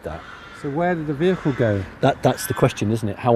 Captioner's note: voiceover